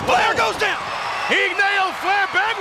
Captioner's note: audience cheers